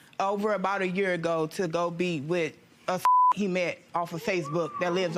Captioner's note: beep